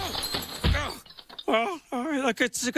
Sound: crash!

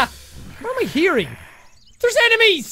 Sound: growling noises

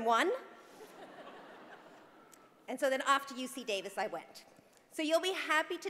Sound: laugh

